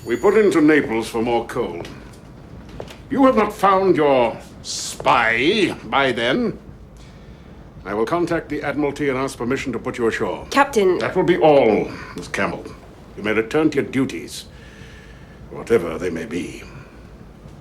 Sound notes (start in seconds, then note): none